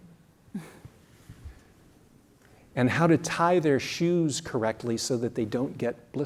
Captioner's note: laugh